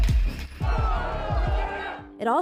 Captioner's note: crowd clamouring